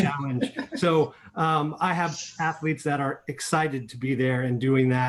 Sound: laughter

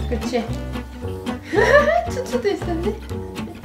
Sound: laugh

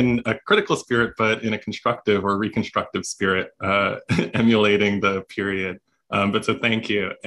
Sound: laughter

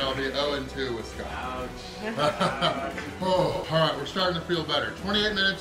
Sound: haha

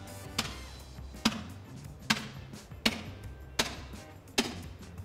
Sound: chopping sounds

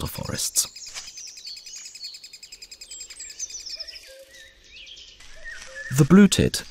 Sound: sounds of nature

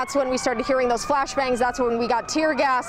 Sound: sirens

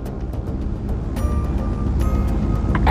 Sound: airplane Engine Sounds

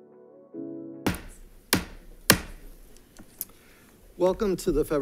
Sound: gentle upbeat music; gavel taps

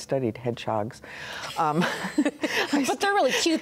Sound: both laugh

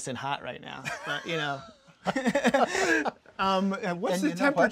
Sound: laughing

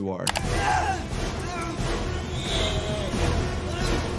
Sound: person screaming

